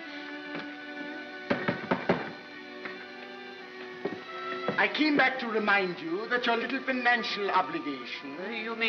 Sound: knock knock

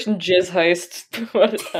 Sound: laughing

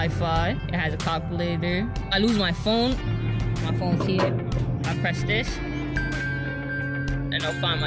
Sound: bell noise

